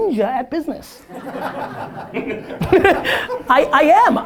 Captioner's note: audience laughter